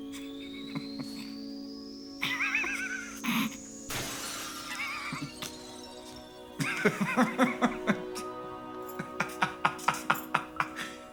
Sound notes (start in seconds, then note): 2.2 laughing; 3.8 laughs; 3.8 sound of glass shattering; 6.6 laughing; 8.9 continues laughing